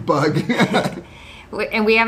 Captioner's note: laughs